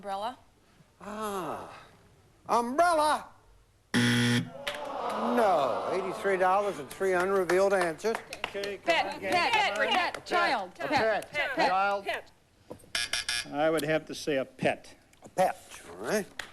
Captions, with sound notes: AN UMBRELLA. AAH! UMBRELLA. [BUZZER] NO. $83 DOLLARS WITH 3 UNREVEALED ANSWERS. PET. PET! CHILD. [BUZZ BUZZ] I WOULD HAVE TO SAY A PET. A PET.